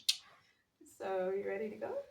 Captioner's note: clicks tongue